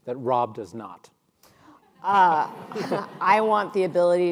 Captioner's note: audience laughing